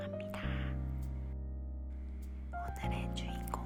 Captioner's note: whispering